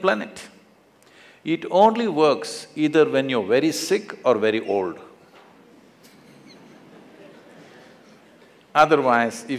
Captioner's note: laughter; 笑聲